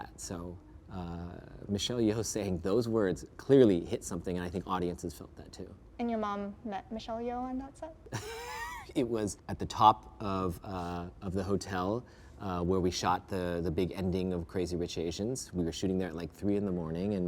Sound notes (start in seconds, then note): 8.1 laughs